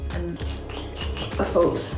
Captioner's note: sprays